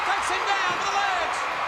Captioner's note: crowd cheering